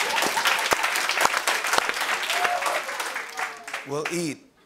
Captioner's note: laughter and applause; applause